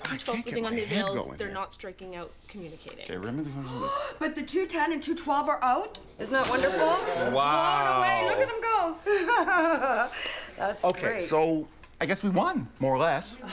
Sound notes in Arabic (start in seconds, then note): 3.6 امرأة أخرى تلهث